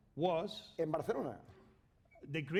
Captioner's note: speaking spanish